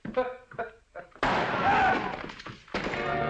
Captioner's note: gunshot